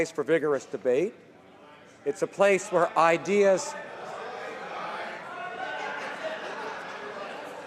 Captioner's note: some Applause